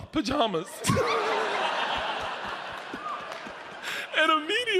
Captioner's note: audience laughs